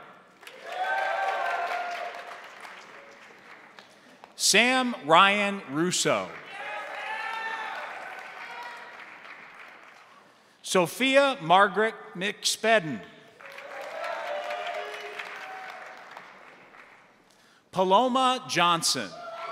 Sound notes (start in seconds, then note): 0.3 crowd applauding; 0.4 crowd cheering; 6.0 crowd applauding; 6.3 crowd cheering; 13.3 crowd applauding; 13.4 crowd cheering